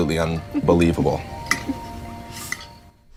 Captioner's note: laughter